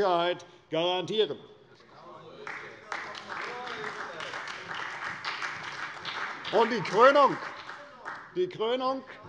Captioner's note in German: Beifall bei der CDU und dem BÜNDNIS 90/DIE GRÜNEN